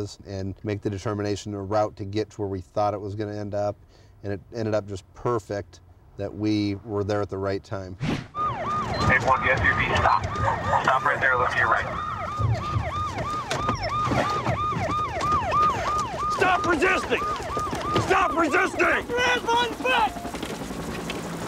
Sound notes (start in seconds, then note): 8.0 police siren; 8.9 police radio